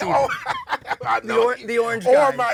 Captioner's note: laughs